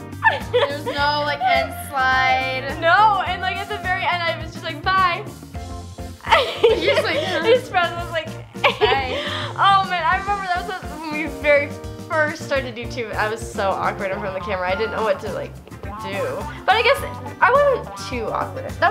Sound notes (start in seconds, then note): 0.0 shrieks; 6.2 laughs